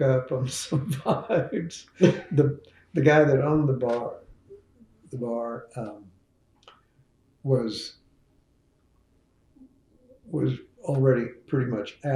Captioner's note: laughs